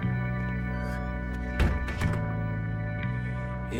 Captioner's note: door squeaking